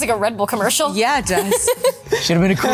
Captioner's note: Mary laughs